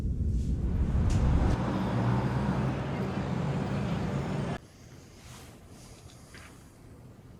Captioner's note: traffic humming; birds chirping